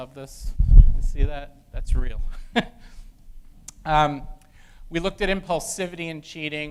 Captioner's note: laugh